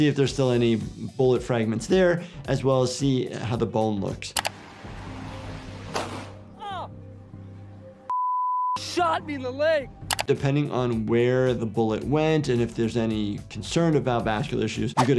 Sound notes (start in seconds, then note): 6.1 gun fires; 8.1 beep